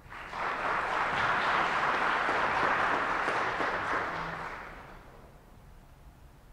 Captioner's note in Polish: oklaski